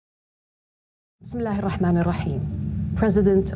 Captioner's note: speaks in Arabic